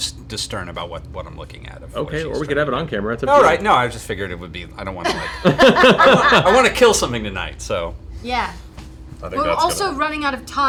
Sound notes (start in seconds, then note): 5.0 laughter